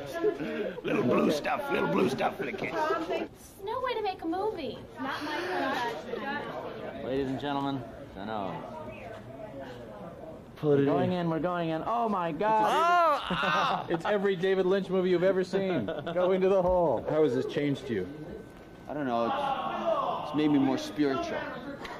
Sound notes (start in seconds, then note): 4.9 inhales deeply